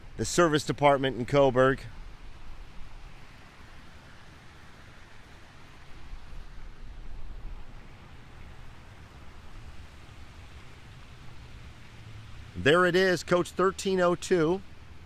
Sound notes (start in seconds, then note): 2.3 water splashing distantly